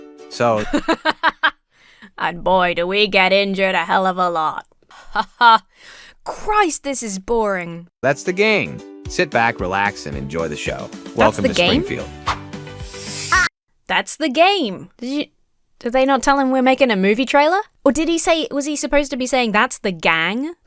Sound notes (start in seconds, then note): 0.6 laughs; 5.0 laughs robotically